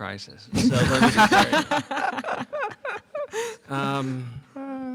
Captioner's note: laughter